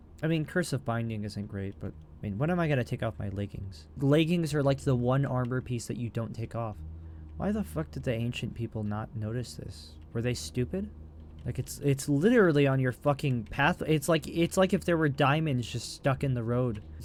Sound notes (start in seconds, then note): none